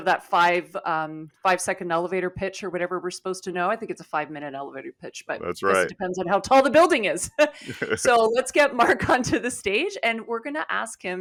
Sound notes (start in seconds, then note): 7.6 chuckling